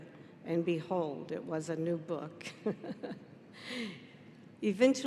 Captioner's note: giggles